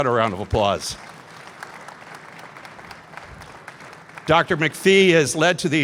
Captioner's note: applause